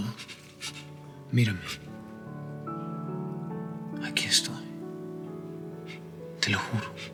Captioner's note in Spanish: Sollozos